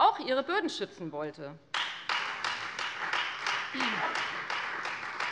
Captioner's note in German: Beifall Freie Demokraten